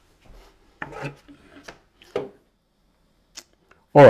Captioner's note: silence